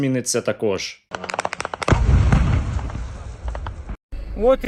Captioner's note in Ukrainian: вибух